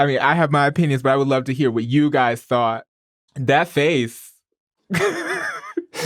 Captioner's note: laughs